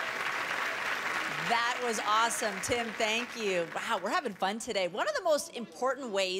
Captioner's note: cheers and Applause